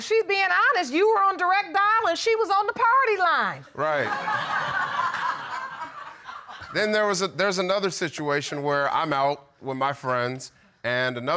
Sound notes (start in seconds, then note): 4.0 audience laughing